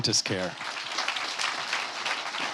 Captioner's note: applause